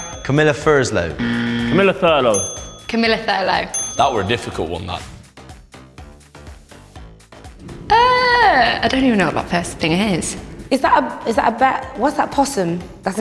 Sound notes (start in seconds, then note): 0.0 correct bell; 1.2 incorrect buzzer; 3.3 correct bell